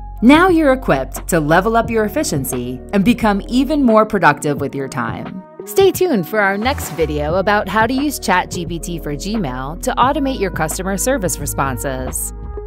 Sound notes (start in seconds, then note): 6.3 text swishing